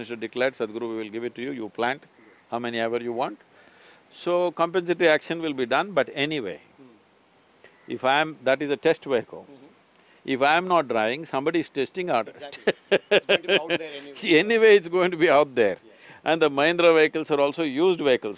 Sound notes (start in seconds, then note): 12.4 laughs